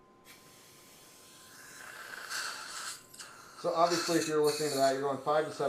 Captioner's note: suction tube hums